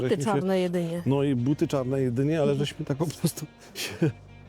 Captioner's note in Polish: śmiech